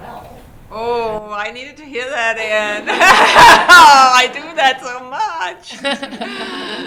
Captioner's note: laughter